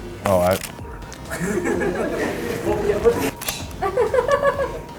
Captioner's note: laughter